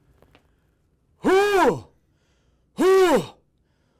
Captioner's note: huffs deeply